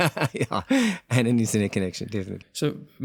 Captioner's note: laugh